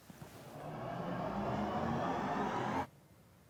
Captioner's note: air whirring